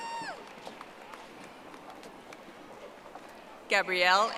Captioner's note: audience applauding